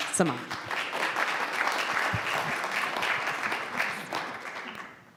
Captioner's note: audience applauds